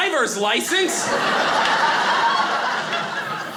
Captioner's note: audience laughing